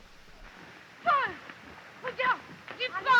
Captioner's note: speaking french